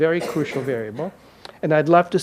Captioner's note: audience member coughs